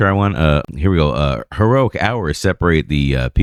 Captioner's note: uh